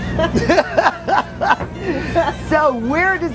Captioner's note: laughs